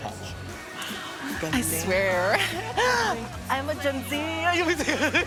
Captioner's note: gasps; both laughing